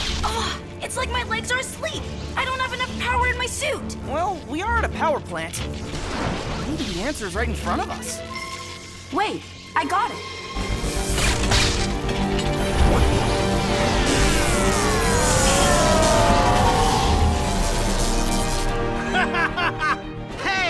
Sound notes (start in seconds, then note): 12.6 zapping; 19.0 evil laugh